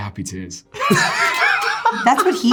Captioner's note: all laughing